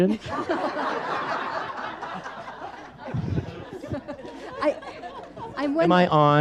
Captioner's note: audience laughs